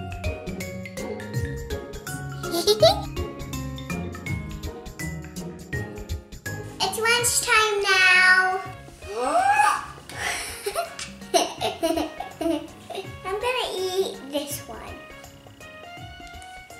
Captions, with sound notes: It's lunchtime now! (gasping and squealing in surprise) I'm gonna eat this one.